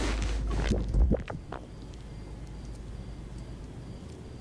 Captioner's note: rubbing rubber noises; radio program fades; digital warble